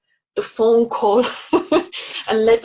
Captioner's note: laughing